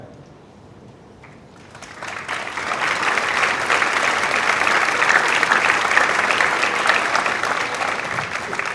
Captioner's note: applause